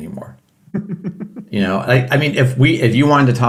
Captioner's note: laughing